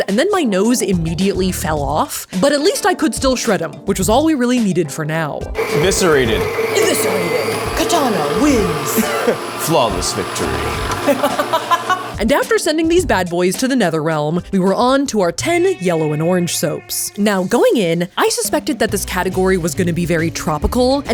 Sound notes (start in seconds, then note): 5.5 mixer whirling; 11.0 laughing